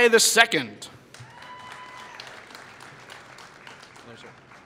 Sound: applause

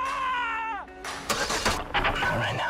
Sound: car ignition struggles, fails

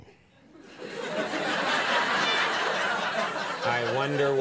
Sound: audience laughing

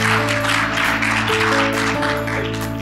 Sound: applause

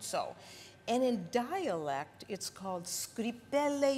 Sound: speaking Italian

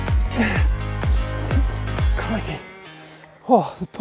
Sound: energetic dance music; groans

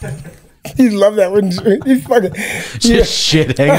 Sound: laughs

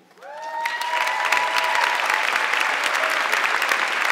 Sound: audience clapping

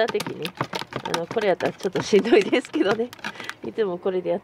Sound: laughs

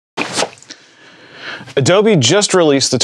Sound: rustling

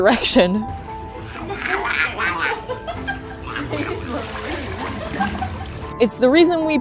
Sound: sea otter vocalizations; laughing

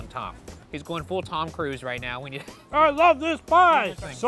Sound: laughs

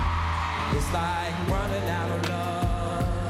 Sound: screams

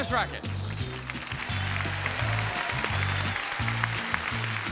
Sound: audience applauding

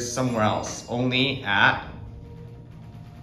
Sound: bell dings to 2 / two

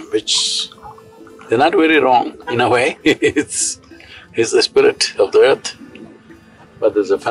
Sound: laughs

